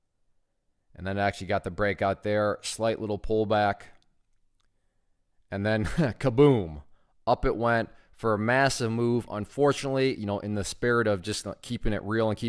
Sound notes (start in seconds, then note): 5.8 laughs